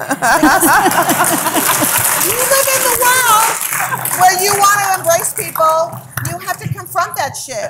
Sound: applause

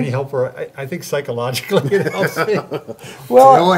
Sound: laugh

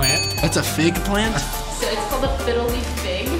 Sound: bell dings

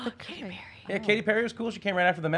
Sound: whispering

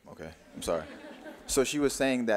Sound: audience laughing

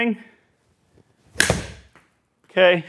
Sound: golf club hits ball, ball hits screen

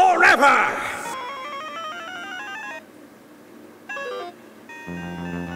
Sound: electronic making sounds

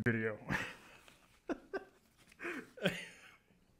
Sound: laughing

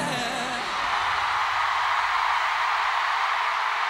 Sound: audience cheering loudly

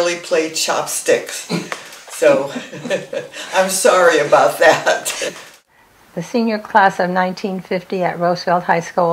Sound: laughing

